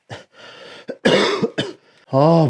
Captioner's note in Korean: 기침